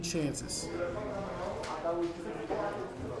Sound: crowd chatter

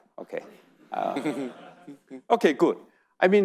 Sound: audience laughing

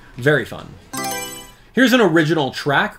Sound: Mario Selection Sound

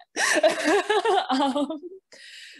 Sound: laughs

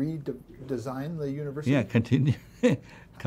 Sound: laughs

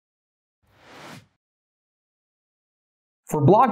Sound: air whooshing

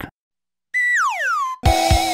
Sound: slide whistle; outro music

